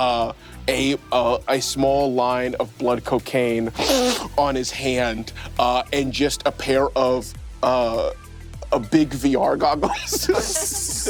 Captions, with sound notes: A small line of blood cocaine (snorts) on his hand and just a pair of big VR goggles (laughs)